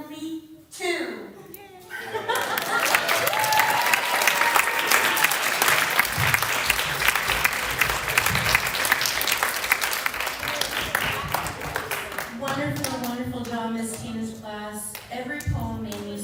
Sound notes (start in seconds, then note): 2.2 applause